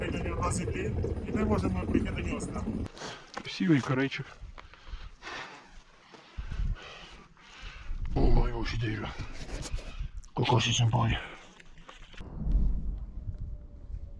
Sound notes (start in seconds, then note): 6.3 Yokel speaks North Korean language